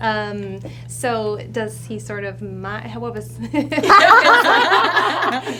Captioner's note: laughs